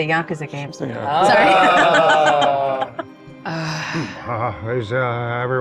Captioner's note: laughs